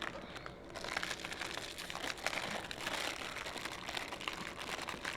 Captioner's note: wrappers rustling